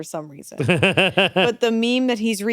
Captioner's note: chuckles